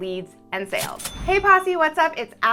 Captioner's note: cash register dinging